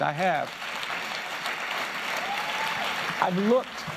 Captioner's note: applause